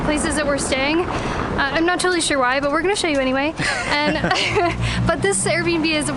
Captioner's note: laughter